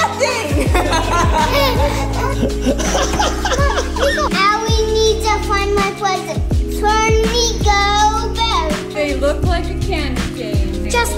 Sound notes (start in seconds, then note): 0.0 laughing